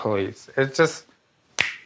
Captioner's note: snaps fingers